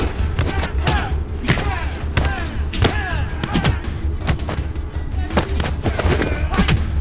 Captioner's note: whooshing; fists thudding; men grunting